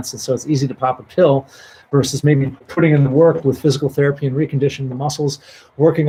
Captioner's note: none